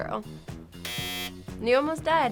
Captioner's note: buzzer rings